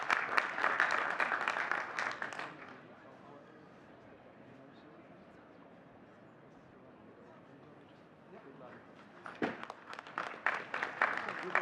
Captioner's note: audience clapping